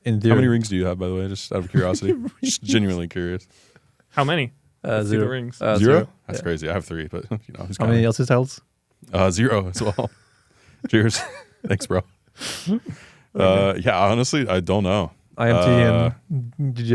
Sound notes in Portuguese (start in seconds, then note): 1.6 risos